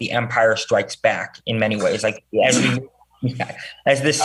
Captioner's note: senator chuckles